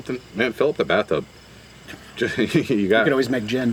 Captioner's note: laughs